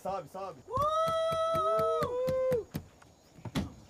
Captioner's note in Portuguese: gritos animados